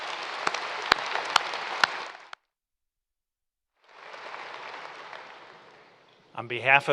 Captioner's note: applause